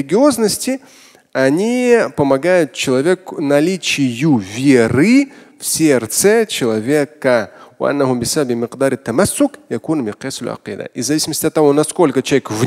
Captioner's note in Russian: Говорит на арабском